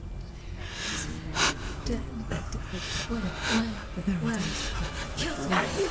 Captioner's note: sobbing